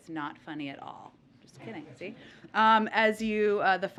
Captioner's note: laughter